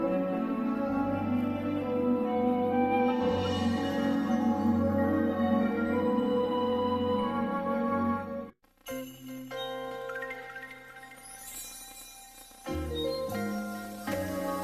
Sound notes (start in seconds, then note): none